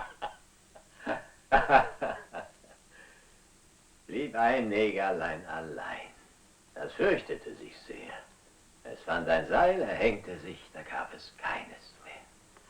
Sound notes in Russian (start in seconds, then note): 1.4 Смех